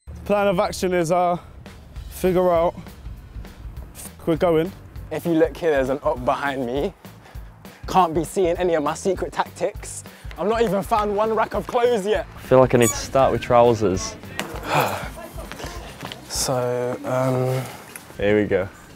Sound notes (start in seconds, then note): 14.6 sigh